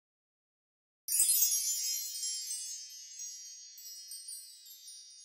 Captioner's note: magic sparkle sound